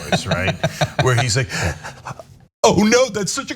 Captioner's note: laugh